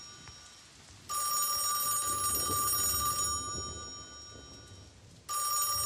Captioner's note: ringing